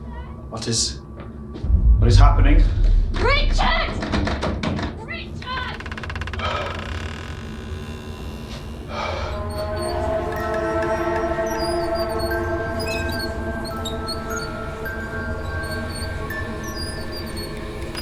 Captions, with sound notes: What is... What is happening? Richard? Richard? [Door creaking] [Wheels creaking]